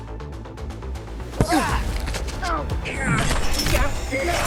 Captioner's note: fighting noises